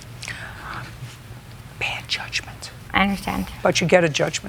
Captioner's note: whispering